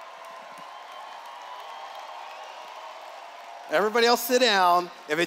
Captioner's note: cheers